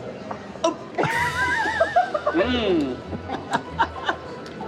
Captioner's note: laughing